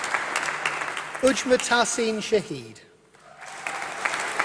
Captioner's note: applause